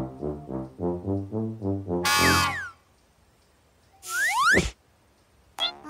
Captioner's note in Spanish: Sonido de bocina